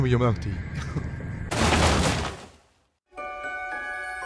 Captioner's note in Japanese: 本が崩れる音